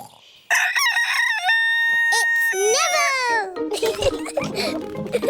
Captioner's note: neville crows; both giggling